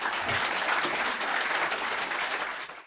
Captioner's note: applause